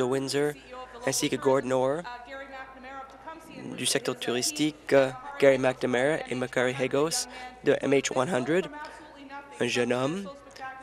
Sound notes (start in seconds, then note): none